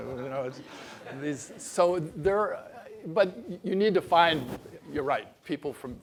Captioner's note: laugh